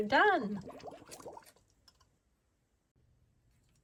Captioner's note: water bubbles